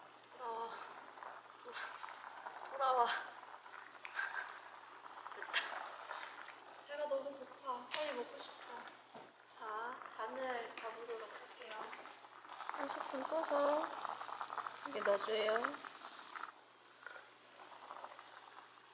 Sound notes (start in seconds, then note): 17.0 sipping